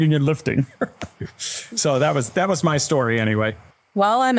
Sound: laughs

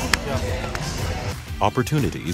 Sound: slapping hands

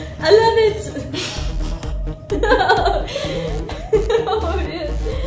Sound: laughs; laughter

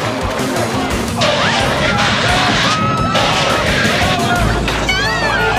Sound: screams

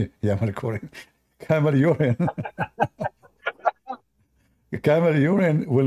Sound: Ketawa

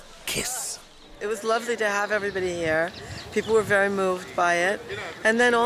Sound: none

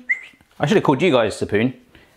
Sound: whistling

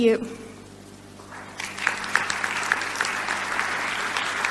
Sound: crowd applauds

